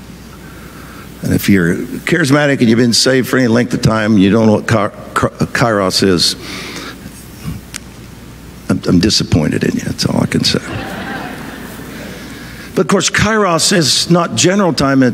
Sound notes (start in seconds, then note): 10.4 audience laughing